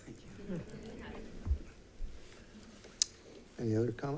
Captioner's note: members giggling